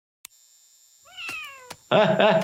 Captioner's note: cat meows; laughing